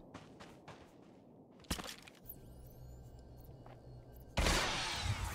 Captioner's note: gunshots